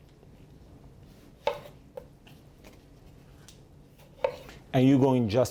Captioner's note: knife scraping on cutting board